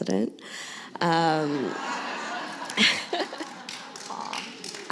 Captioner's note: laughter